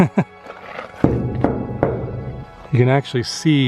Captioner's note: laughter; metallic knocking